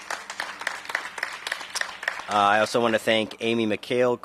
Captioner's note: applause